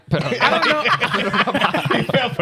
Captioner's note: laughing